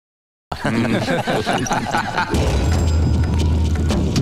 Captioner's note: Laughs